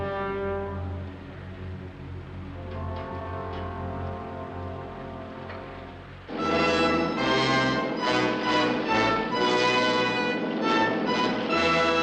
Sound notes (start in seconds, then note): none